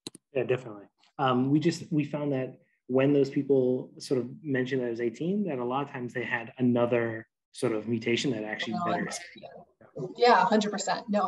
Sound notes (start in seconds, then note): 7.6 chattering